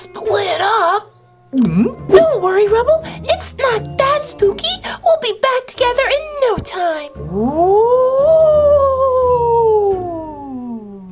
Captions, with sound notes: - Split up? (gulps) - Don't worry, Rubble, it's not that spooky. We'll be back together in no time. (howling sound)